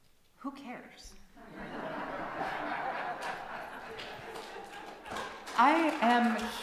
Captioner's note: laughter and applause from congregation